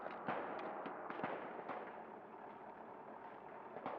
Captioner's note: sporadic gunfire